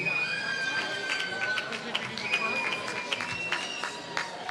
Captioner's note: applause